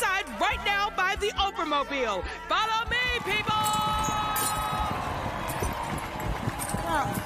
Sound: cheering

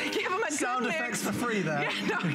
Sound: laughter; laughter

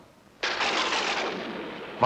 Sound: thunder rumbling

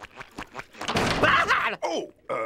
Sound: shrieking

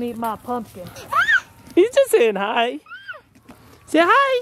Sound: screams

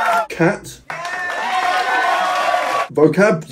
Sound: people cheering and applauding

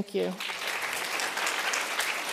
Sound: applauds

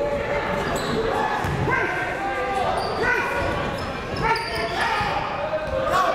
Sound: crowd talking; coaches yelling

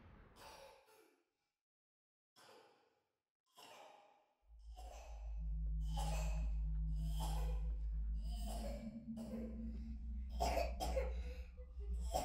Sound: child coughing/suffacating

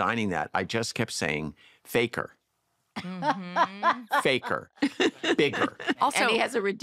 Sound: laughter

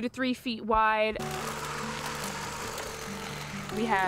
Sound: buzz of weed whacker

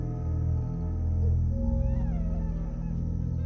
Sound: muffled screams; muffled crying

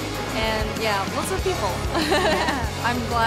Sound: laughing

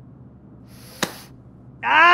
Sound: sniffs; sneezes

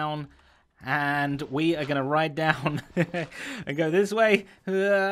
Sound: chuckles

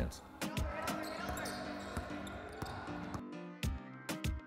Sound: overlapping chattering

